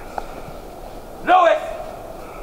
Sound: shouts

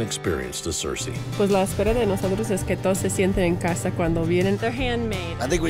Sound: speaking foreign language

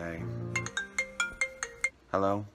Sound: phone goes off

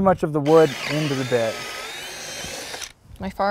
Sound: drill whirring, no additional audio

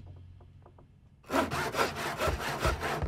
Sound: sawing

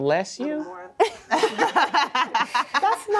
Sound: laughter

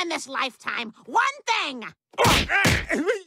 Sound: groaning

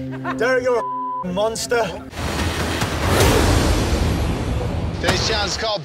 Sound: beep

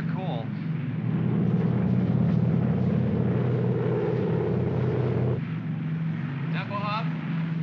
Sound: aircraft rumbles

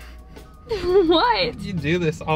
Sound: laughs

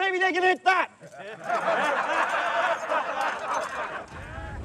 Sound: laughs

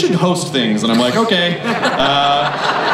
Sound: crowd laughs

